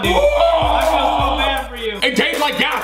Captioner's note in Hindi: चिल्लाना